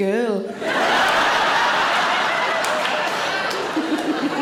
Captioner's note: audience laughing